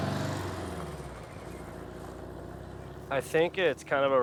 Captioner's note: van engine murmuring